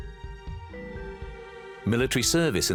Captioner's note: man speaking German